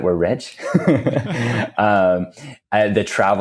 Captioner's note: both laughing